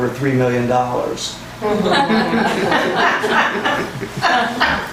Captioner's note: laughter